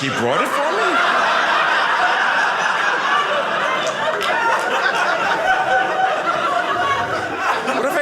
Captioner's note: audience laughing